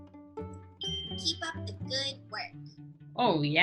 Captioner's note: bell dings